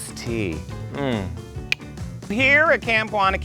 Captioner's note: clicks